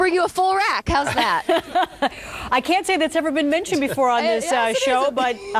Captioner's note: laughs